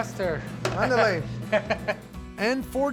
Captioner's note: laughter